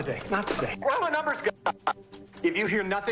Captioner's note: glitching audio